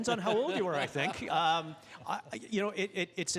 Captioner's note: laughing